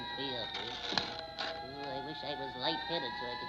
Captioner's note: match scratching